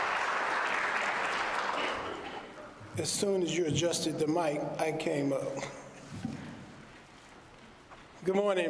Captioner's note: applause